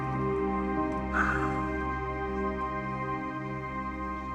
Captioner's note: sighs heavily